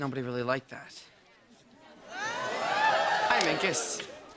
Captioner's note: audience cheering